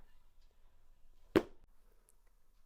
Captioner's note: clap